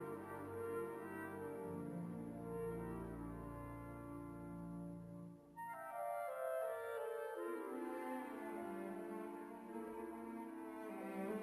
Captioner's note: speaking French